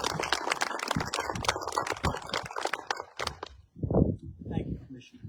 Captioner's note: applause